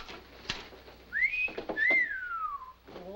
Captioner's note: whistles